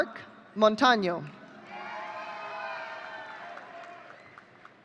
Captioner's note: audience cheering